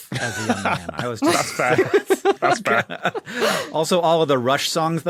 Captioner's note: laugh; laughs